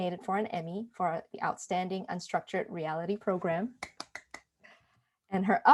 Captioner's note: clapping